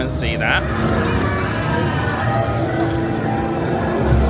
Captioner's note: guests chattering